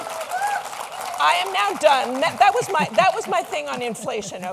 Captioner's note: cheers and Applause; applause